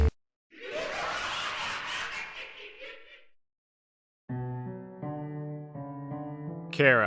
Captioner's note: maniacal laughter